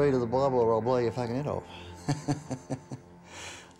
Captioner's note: laughs